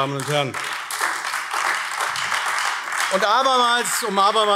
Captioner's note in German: Beifall AfD